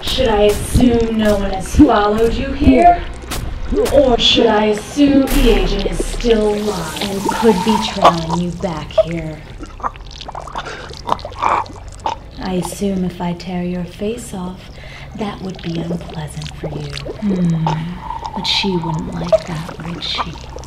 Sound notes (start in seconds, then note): 9.8 spellbinder choking